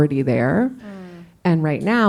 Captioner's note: coughs